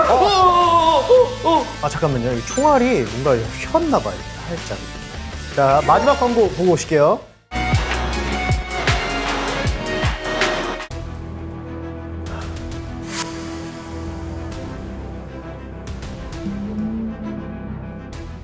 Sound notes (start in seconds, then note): 12.2 deep breath